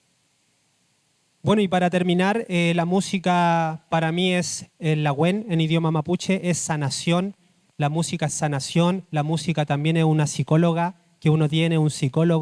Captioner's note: speaking Spanish